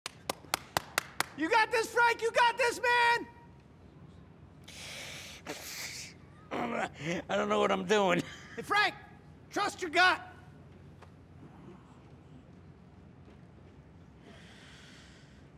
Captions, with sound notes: [APPLAUSE] You got this, Frank! You got this, man! [SIGHING] I don't know what I'm doing. Frank, trust your gut! [SIGHING]